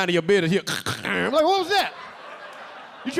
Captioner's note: LilRel imitating broken hair clippers; audience laughing